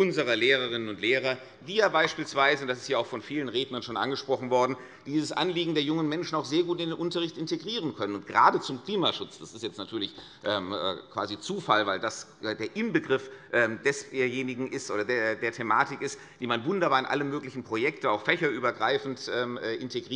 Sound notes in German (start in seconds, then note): none